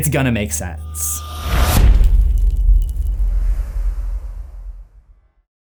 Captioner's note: impact